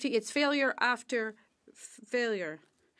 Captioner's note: speaking French